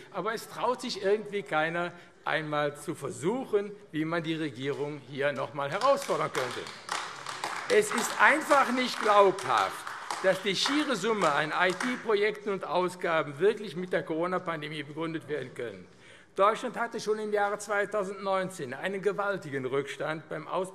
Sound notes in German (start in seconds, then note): 6.6 Beifall AfD